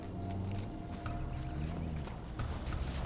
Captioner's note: vehicle approaching